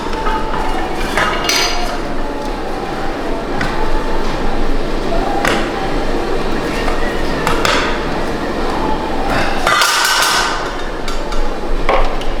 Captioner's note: metal Clanking